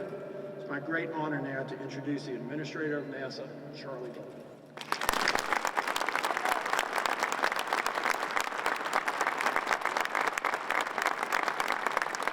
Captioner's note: applause